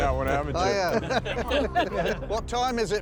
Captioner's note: laughter